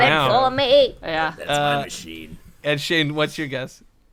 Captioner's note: old person voice